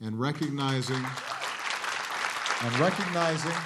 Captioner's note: applause